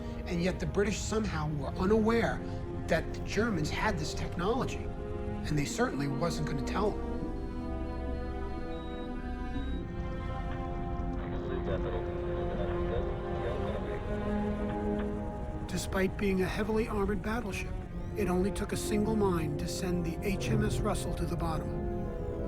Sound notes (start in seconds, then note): 8.1 somber dramatic music; 11.4 man speaking in foreign language